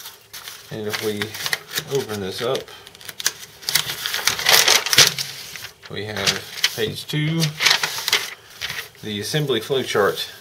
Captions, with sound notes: And if we open this up [paper crinkles] We have page two, the assembly flow chart.